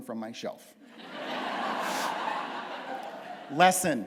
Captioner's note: laughter